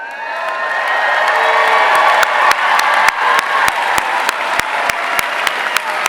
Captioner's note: audience cheering and applauding